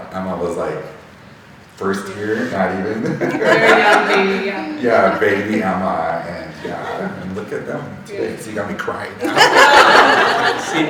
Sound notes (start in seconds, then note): 2.4 laughing; 9.2 all laughing